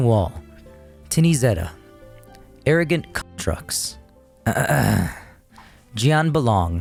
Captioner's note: clears throat